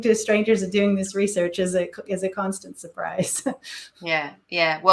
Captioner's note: chuckle